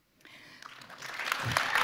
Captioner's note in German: Applaus